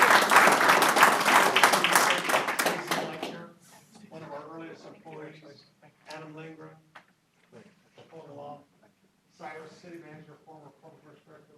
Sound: applause

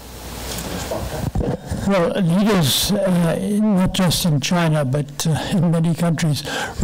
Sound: microphone rumbling

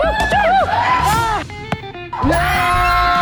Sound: ball hits the net and falls

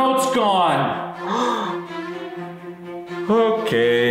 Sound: gasps

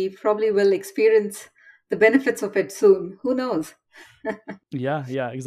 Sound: chuckle

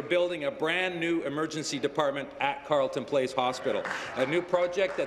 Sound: applause

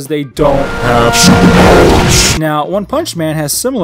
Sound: distorted

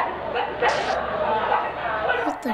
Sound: deranged screaming; farting noise

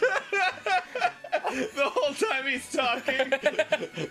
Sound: Arin still laughing; Danny laughs

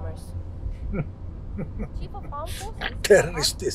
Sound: laughing

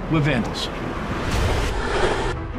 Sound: train rumbling

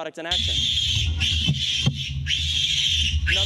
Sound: squealing

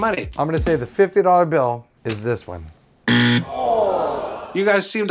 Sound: wrong answer buzzer/crowd "ooh"

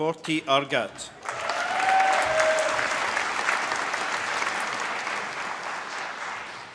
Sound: applause

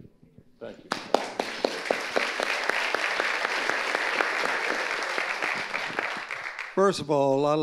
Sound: audience applauding

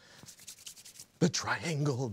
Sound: rubbing hands together

